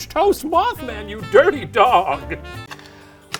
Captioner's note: chuckling